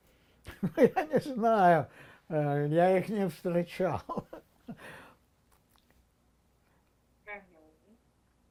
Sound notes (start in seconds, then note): 3.5 laughing